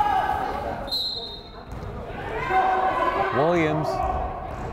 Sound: whistle blows

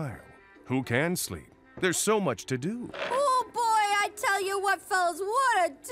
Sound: none

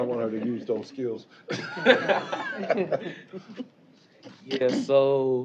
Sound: laughter

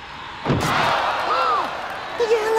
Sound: crowd gasping

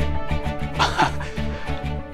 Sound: chuckling

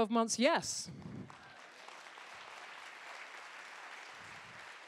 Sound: applause

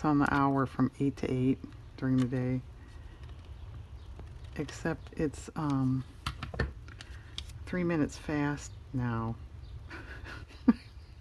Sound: laughs

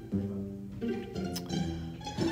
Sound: Toy Bonnie's Lips Smackering

